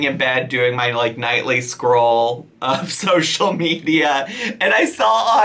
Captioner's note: chuckling